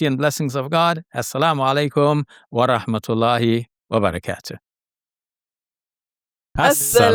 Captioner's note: speaks in foreign language